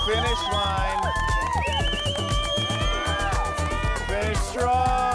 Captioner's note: all cheering